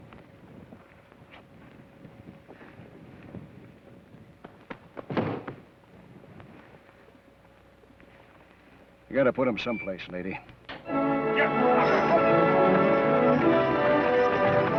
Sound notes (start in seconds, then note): 4.6 foot thuds; 10.8 dramatic orchestral music